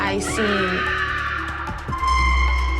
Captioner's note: screaming